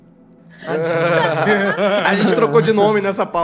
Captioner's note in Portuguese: risos